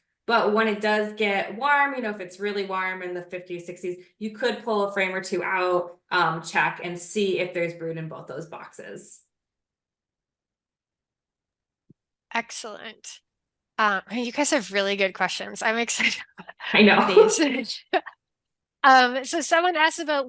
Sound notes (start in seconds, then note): 16.0 laughs